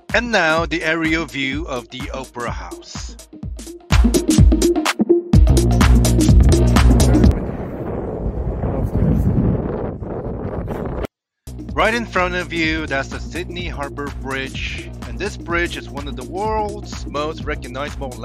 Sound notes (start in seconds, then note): 6.3 windy